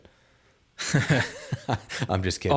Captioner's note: both chuckling